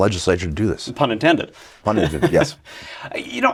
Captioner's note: laughs